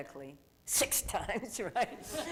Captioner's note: laughter